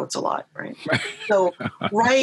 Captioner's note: laughs lightly